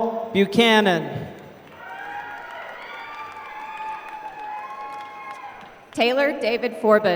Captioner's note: applause